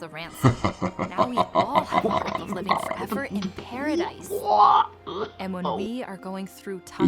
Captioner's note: incredulous laughter & Stammering; chuckling